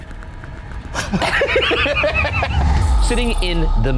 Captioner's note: both laughing